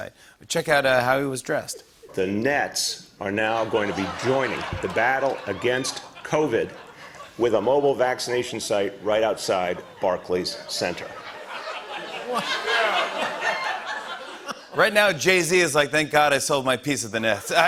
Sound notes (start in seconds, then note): 11.1 laughter